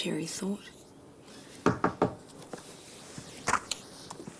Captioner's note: knocking